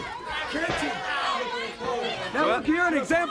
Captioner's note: crowd chatter